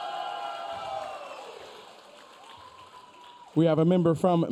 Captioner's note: audience cheering